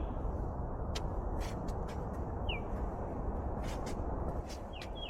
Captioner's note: birds chirping